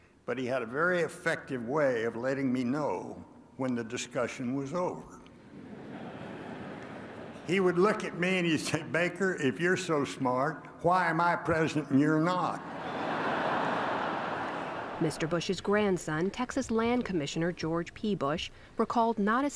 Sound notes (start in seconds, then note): 5.5 laughter; 12.6 laughter